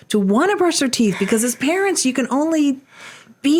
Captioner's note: chuckles